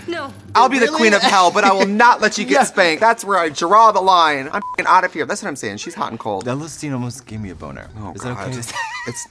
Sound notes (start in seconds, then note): 4.5 beep; 8.4 laughing